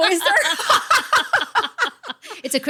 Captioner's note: laughing